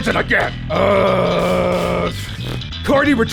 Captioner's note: moaning